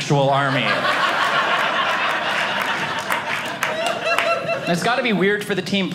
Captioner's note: audience laughing